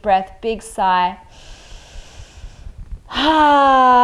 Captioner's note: inhales deeply